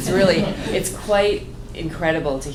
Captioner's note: laughter